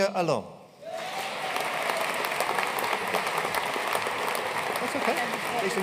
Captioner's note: audience cheering and applauding